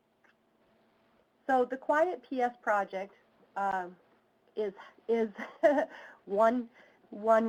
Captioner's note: laughs